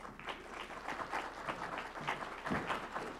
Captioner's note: applause